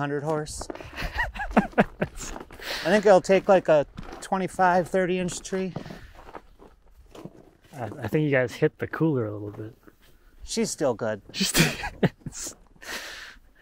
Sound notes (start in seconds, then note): 3.8 laughing